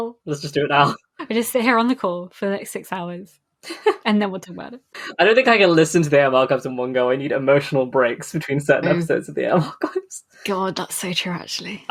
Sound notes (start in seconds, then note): 3.3 laughs; 8.3 laughing